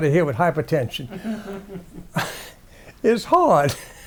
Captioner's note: audience laughs